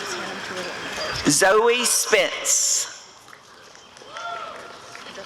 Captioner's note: applause and cheering